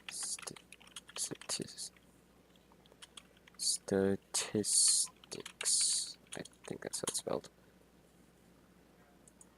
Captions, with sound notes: *more typing* *more typing* sta... tis... tics I think that's how it's spelled.